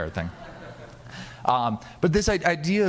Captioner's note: audience laughing